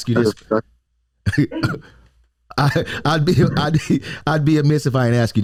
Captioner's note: chuckles